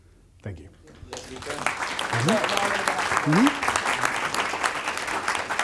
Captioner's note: audience clapping